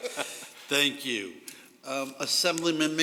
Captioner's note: laughter